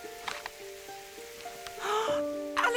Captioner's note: gasps